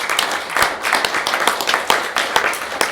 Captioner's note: applause